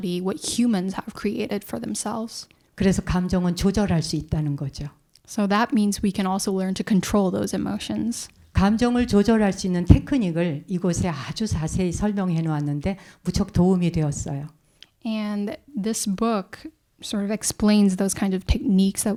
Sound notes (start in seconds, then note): 3.4 speaking in Korean; 9.2 speaking in Korean